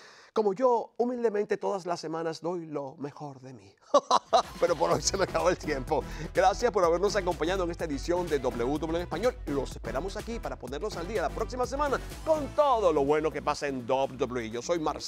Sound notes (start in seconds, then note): 3.8 laugh